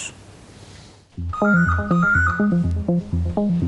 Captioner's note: phone ringing